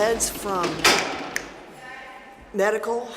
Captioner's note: snapping